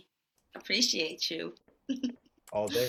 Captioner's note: laughs